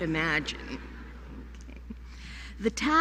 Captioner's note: laughter